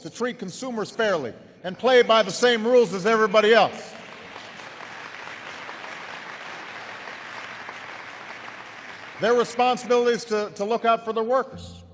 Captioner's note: applause